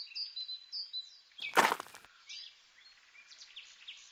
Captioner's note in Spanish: Crujido de nieve